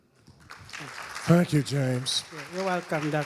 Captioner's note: audience applauding